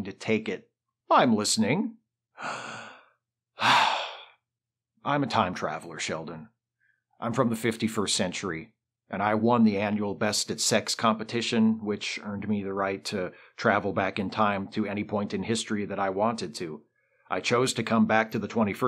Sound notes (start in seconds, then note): 2.3 takes a deep breath